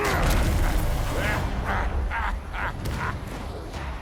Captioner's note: laughing